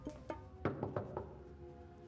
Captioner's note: knocking